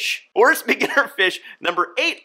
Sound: chuckles

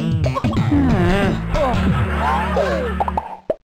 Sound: laughter

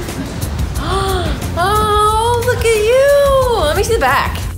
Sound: gasps

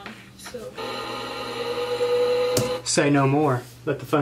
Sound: sewing machine

